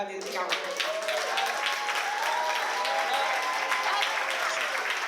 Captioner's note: applause